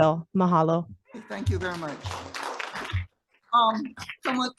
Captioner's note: audience applauding